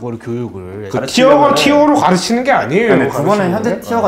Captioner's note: quarreling